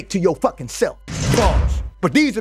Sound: bars slamming

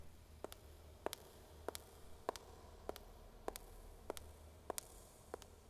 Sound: footsteps

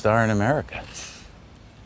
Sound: scoffs

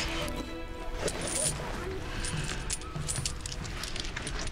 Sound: coins jingle

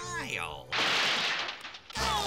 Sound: thudding

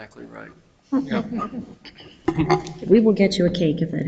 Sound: people chuckle

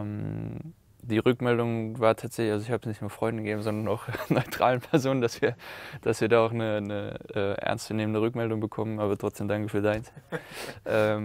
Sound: laughs

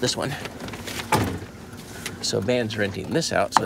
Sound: car door bangs

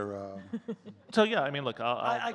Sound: chuckling

